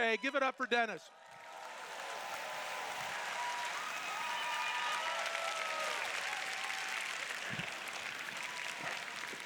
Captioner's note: applause